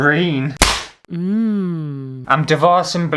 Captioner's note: slap!; mmmmmm